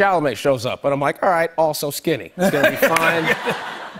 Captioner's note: laughter